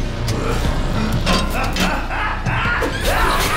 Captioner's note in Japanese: 笑い声